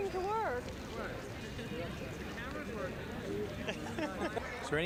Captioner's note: indistinct chatter